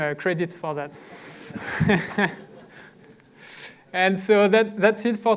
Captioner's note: laughter